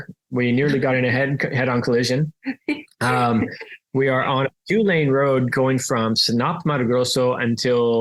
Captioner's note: laughs